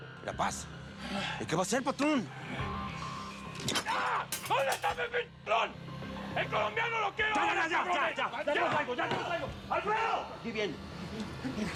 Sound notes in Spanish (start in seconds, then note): 4.4 ruido al romper cosas; 7.1 sigue gritando